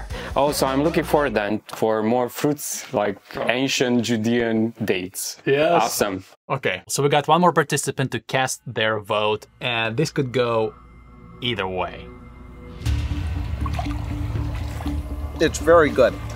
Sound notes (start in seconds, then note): 12.4 suspenseful music; 13.4 waves lapping